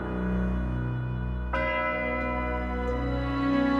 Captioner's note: bell tolling